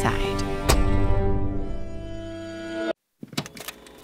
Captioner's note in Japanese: ドアの閉まる音